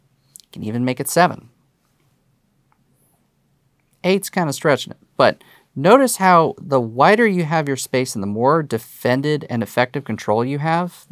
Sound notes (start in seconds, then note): none